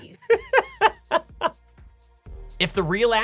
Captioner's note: laughing